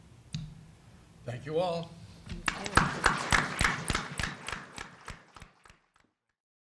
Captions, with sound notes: Thank you, all. [APPLAUSE]